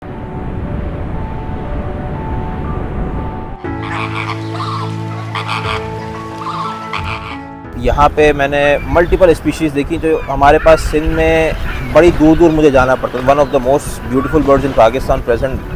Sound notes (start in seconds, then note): 0.0 sound of waves, birds chirping and wind